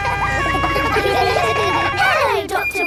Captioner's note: kids laughing